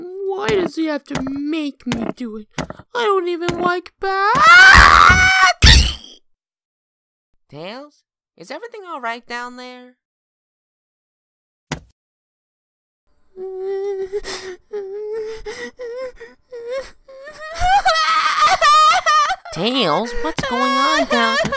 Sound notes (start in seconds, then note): 14.6 starts to cry; 17.1 crying